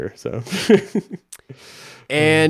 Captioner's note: chuckles